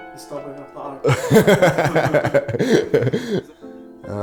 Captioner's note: laughing